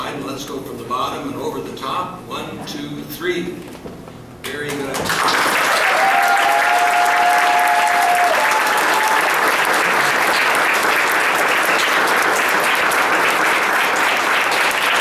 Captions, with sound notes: let's go from the bottom to the top; one, two, three. Very good! [Applause and cheers]